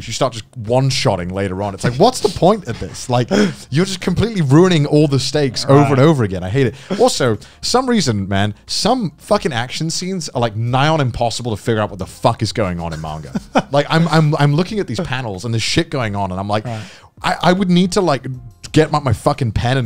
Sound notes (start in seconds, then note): 12.9 laughing